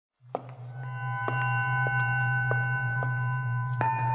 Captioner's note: footsteps